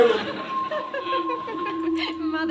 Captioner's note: laughing